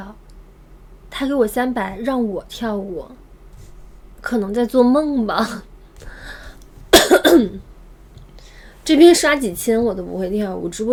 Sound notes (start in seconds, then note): 6.9 cough